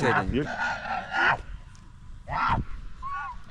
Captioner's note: camel's roar